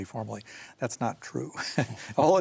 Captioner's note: both chuckle